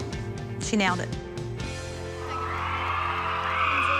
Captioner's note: applause and cheering